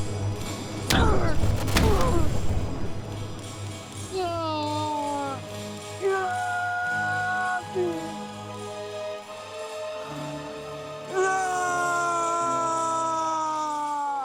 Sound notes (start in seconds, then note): 0.2 dramatic music; 6.0 anguished shouting; 9.2 dramatic music